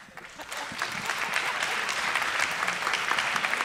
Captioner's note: applause